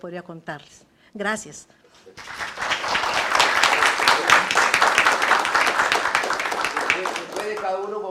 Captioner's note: aplausos